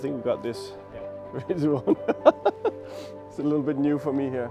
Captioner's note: laughing